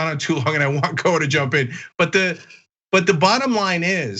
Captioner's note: laugh